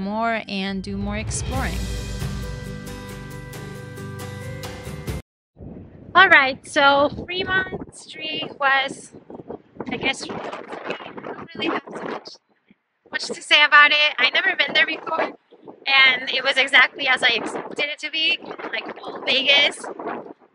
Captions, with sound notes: Alright, so Fremont Street was *wind cuts of audio* I don't really have too much to say about it. I've never been there before. and it was exactly as I expected it to be, like old Vegas.